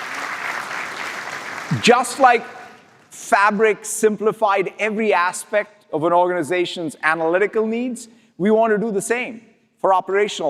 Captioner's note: applause